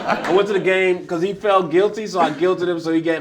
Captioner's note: laughter